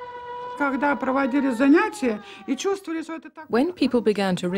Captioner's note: speaking Russian